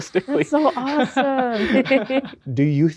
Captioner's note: chuckles